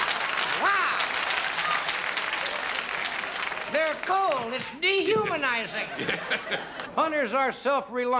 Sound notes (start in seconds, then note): 0.0 laughing and clapping